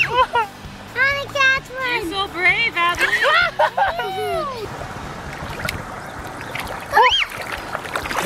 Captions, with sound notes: - I wanna catch one! - You're so brave Adley! (Screaming)